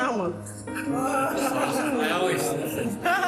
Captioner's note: laughs; people oohing